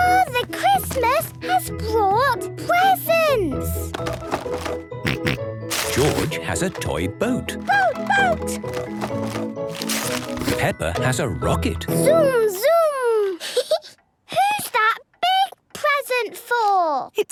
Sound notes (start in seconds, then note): 3.9 rattling; 3.9 snorting; 7.5 rattling; 13.3 giggling